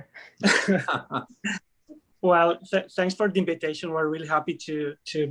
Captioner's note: chuckling